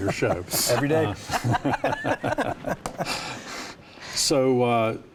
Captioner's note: all laughing